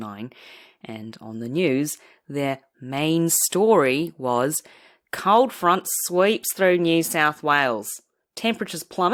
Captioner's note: australian accent